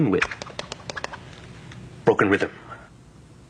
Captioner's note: stick whipping through the air